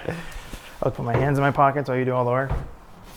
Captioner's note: chuckles